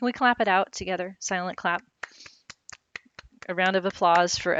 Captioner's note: claps